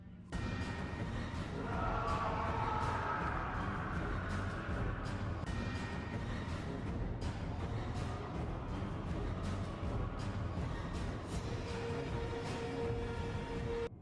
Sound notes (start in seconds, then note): 0.2 chase music; 1.5 scream; 3.5 chase music